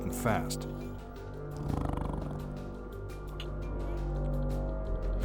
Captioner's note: tiger growls